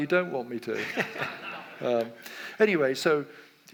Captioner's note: audience laughs